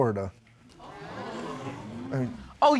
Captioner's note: audience exclaiming